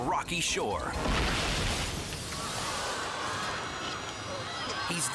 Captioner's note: surfer crashing; crowd screaming